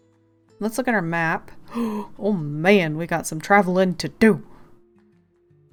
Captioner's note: gasp